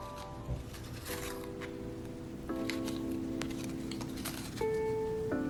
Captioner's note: bright electronic music; tape scratching